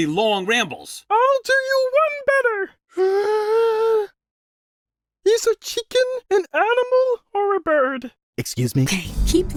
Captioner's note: inhale